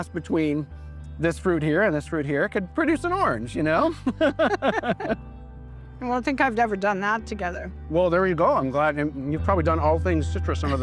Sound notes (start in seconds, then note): 4.0 laughter